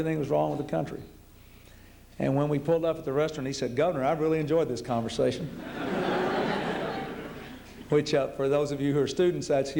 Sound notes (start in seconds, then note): 5.5 laughter